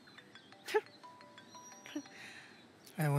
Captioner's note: Cell phone ringing; Chuckles